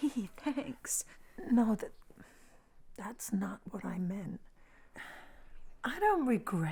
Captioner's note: sighs